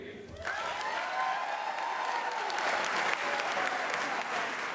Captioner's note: applause